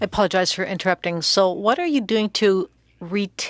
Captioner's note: speaking French